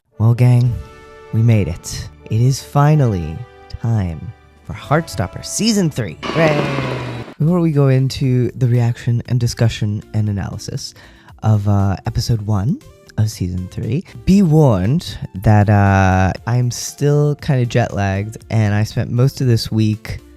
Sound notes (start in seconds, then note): 6.3 applause, cheering, fireworks